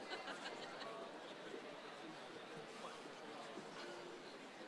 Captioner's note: crowd chattering